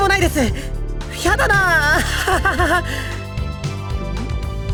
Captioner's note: awkward laugh